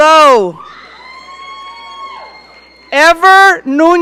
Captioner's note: audience cheering